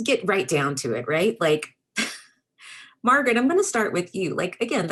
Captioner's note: giggles